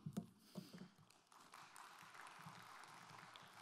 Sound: applause

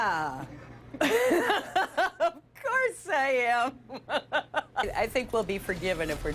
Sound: laughs

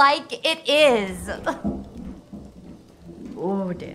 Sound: footsteps

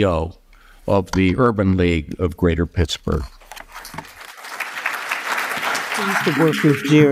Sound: applause

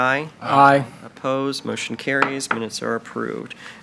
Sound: gavel taps

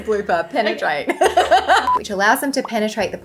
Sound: laughing

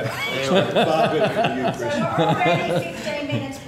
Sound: laughter

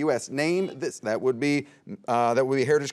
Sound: buzzer beeps

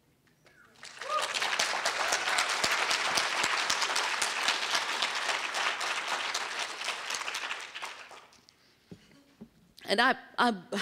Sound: applause

